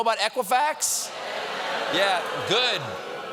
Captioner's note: cheers and applause